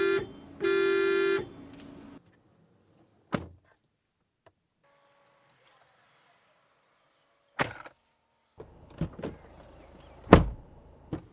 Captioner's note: door thud test